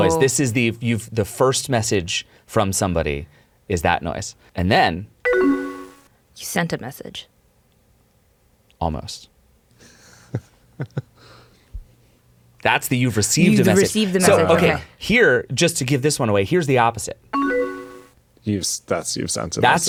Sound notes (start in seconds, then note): 5.2 computer chimes; 10.2 chuckles; 17.3 computer chimes